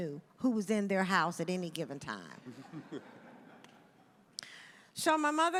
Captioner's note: audience chuckles